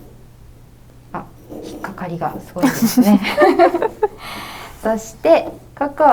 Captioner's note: laughter